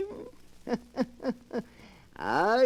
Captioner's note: laughter